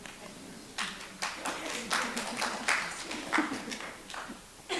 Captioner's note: audience applauds